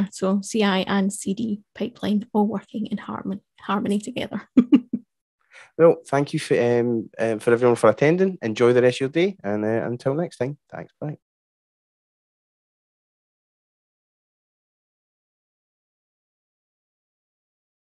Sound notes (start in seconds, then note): 4.5 chuckles